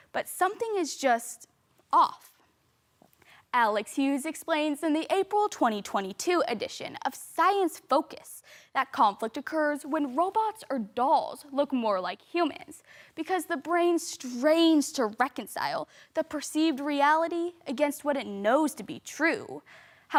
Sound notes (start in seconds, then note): 3.0 soft breathing